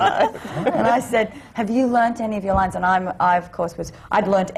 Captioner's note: laughs